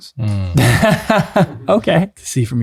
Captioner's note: laughs